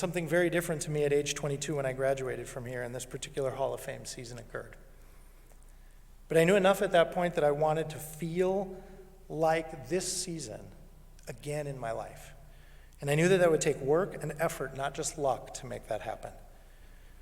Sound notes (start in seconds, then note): none